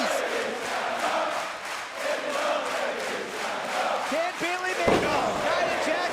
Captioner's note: crowd cheering